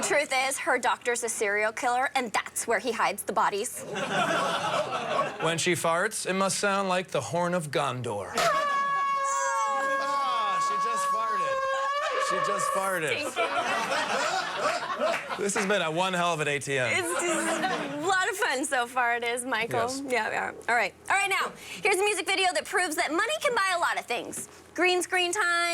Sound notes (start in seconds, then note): 15.8 horn